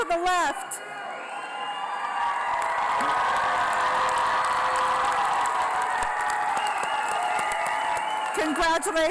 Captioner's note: applause